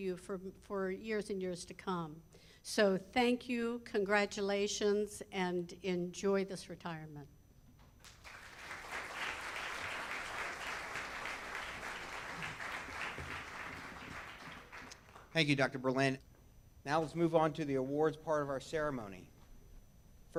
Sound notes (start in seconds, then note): 8.0 audience claps